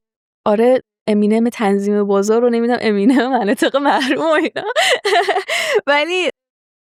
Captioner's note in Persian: خنده